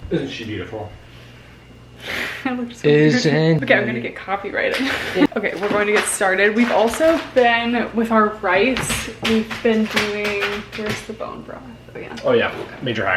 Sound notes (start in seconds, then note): 4.6 laughing